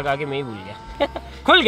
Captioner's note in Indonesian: Tertawa